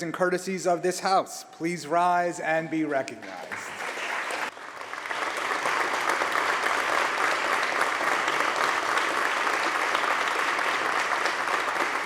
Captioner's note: applause